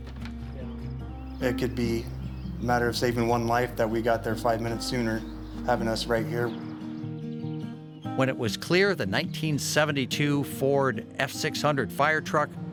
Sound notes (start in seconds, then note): 0.3 light music; 7.3 birds chripping